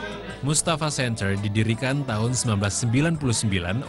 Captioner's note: non-english speech